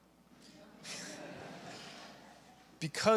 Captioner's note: audience laughing